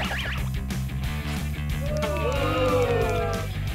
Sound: booing

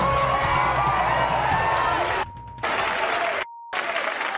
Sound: audience claps

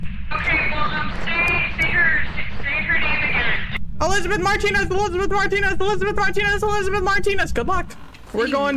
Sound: over Radio

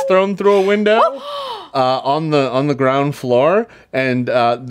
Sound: players gasp

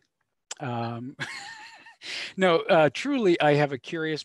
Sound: laughs

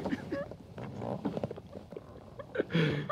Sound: laughs

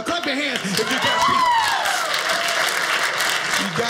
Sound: audience clapping

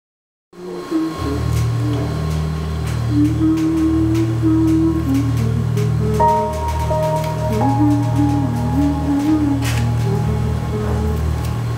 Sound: humming softly

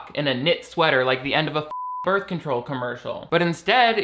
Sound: beep

